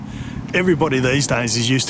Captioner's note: birds chirp